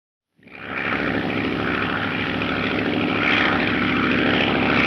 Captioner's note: aircraft droning